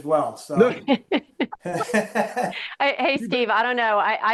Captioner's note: laughing